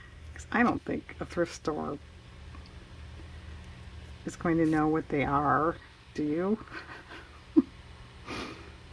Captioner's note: laughs